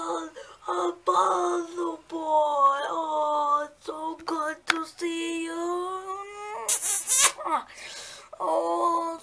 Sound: kisses

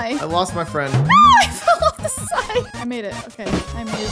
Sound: laughing

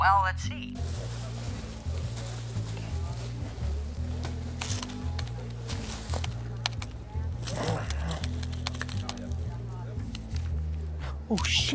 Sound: rustling sound

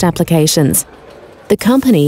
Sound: bubbles and buzzing

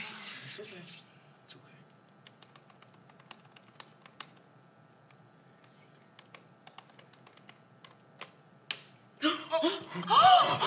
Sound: typing; gasping, then cheers

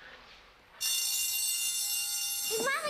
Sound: bell rings

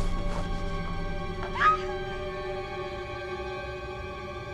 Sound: Amanda screams

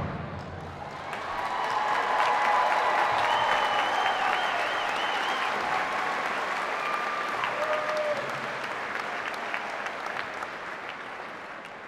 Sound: cheers and applause

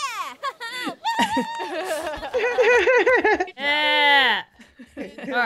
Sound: laugh

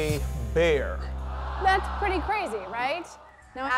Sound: audience groans

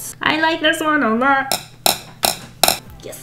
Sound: tap, tap, tap, tap

